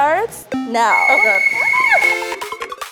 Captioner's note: beeping; upbeat music